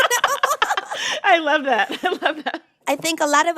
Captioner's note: laughter